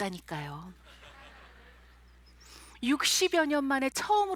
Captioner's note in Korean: 관객들 웃음소리